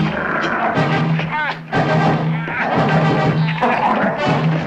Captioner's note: dog growling; David groaning